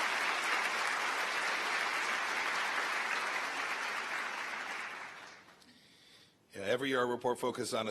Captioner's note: applause